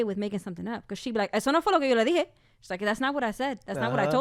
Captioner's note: speaks in Spanish